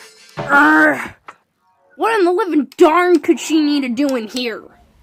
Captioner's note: Usapyon groans